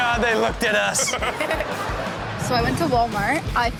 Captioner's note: all laugh